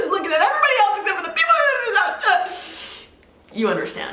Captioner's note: stammering